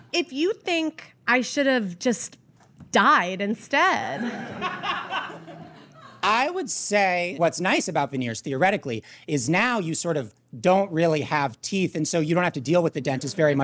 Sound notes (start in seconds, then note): 4.2 scattered uproarious laughter